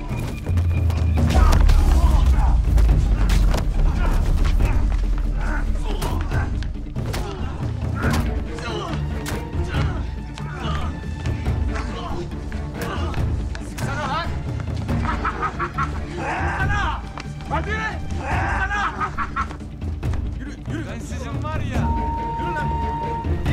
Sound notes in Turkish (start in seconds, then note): 7.9 Dövüş sesi; 18.8 Gülme sesi